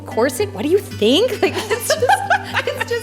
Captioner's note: laughing